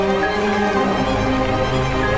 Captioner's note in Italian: Applauso